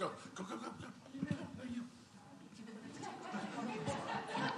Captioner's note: chatter